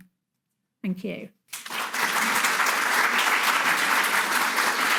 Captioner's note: audience applauding